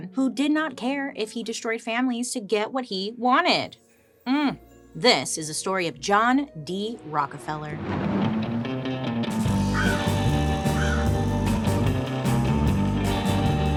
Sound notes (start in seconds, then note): 7.6 thunder rumbles; 8.6 bird cawing; 9.4 warm bluegrass music